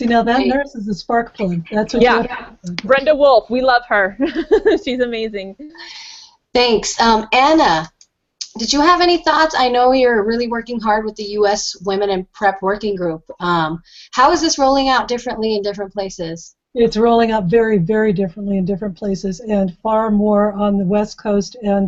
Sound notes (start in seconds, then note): 4.5 laughs